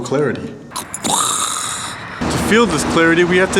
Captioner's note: making explosion noise